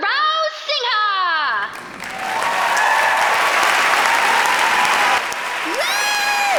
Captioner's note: huge Applause